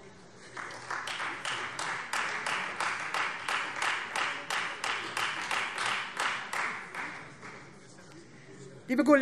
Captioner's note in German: Beifall Freie Demokraten